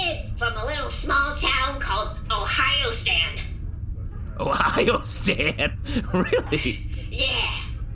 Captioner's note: laughing